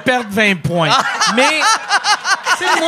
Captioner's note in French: rires